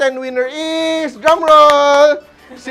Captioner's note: claps